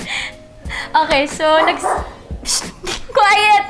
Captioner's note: dog barking